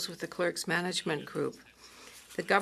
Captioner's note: speaking French